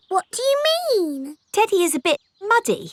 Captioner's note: in normal voice